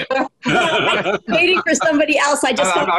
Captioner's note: laughs